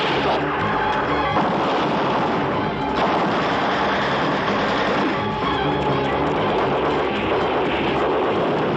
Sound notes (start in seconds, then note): 4.9 blast